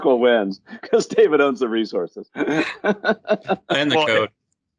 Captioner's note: laughs